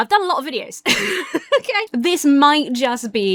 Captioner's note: laughs